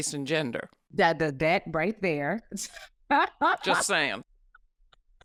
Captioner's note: laughing